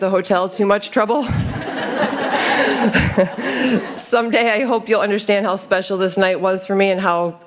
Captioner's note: laughter